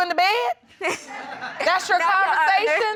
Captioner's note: laughing